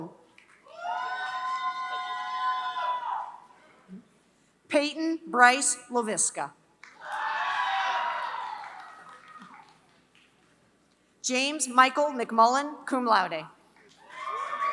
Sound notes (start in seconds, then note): 0.3 applause; 8.0 applause; 13.8 applause